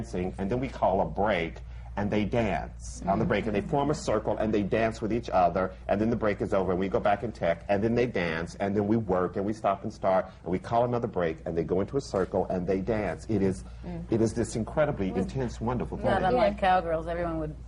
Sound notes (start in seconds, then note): none